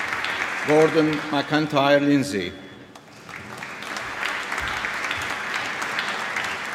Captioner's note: applause